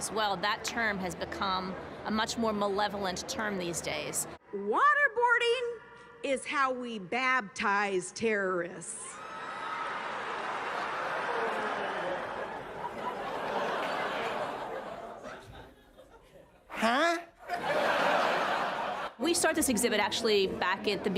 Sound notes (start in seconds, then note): 9.1 crowd cheering; 17.4 audience laughter